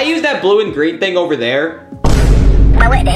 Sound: metal bangs

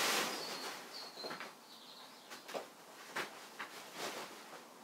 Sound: birdsong from outside

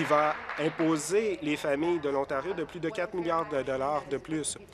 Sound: applause

